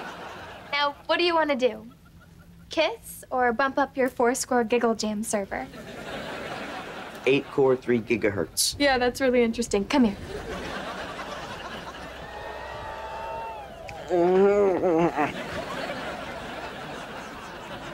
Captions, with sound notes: Now, what do you want to do? Kiss or bump up your four score giggle jam server. Eight core, three gigahertz. Yeah, that's really interesting. Come here. [grumbling]